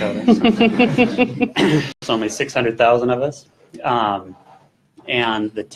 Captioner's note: crowd laughter